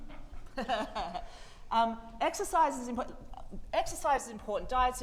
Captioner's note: laughs